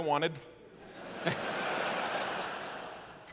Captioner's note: laughter